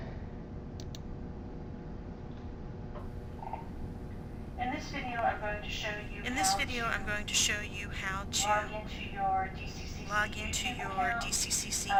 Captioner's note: audio from video playing on desktop